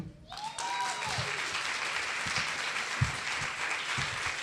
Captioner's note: audience cheering